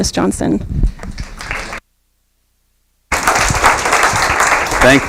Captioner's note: applause